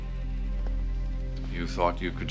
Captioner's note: none